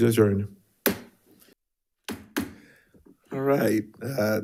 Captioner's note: gavel thudding